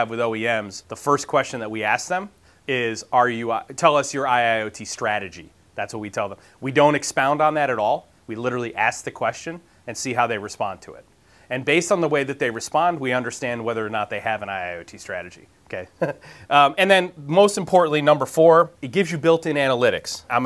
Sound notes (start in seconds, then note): 15.9 laughs